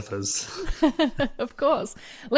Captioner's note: laughs